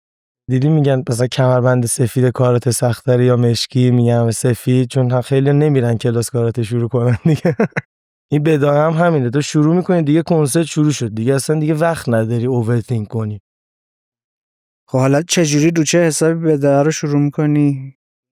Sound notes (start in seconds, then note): 7.1 laughs